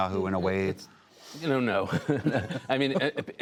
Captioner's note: laughter